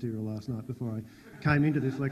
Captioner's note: audience laughs